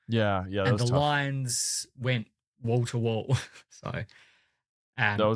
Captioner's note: laughs